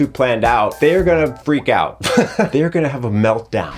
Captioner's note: laughs